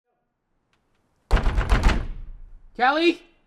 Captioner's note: pounding on door